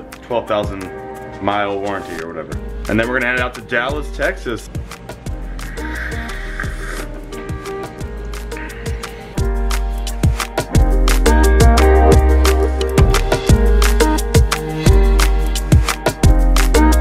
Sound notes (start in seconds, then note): 5.5 sipping; 8.6 chill vibe music